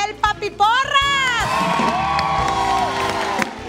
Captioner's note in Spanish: Aplausos